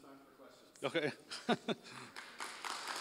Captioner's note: laughs; applause